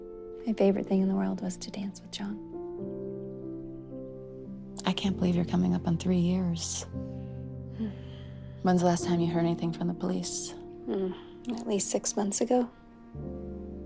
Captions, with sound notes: My favorite thing in the world was to dance with Jon. - I can't believe you're coming up on three years. (Jackie sighs) When is the last time you heard anything from the police? - At least six months ago.